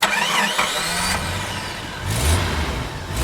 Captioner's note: engine starts